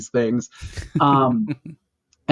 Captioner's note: laughter